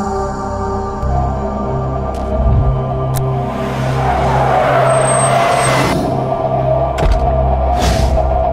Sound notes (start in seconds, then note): 3.9 brakes squeak